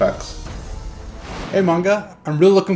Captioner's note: air whooshing